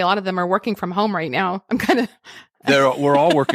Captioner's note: laughs